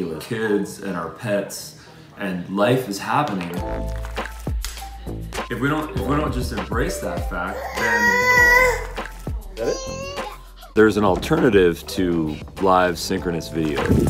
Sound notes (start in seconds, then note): 7.7 child crying